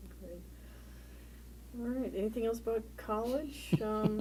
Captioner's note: laugh